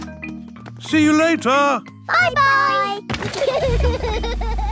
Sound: laughter

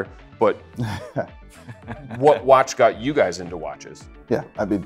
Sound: chuckling

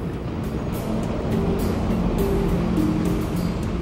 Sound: trains roaring

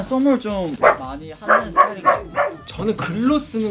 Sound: puppy barks

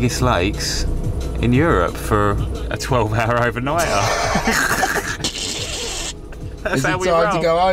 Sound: laughs loudly

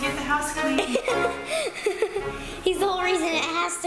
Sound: laughter

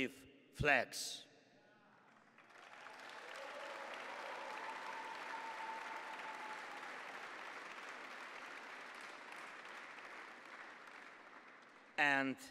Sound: applause

